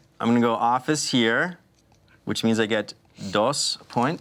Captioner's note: none